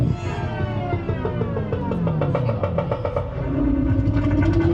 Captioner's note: audio distorting